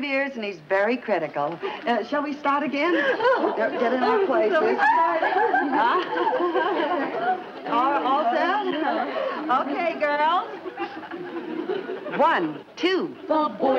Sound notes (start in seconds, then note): 3.0 ladies chattering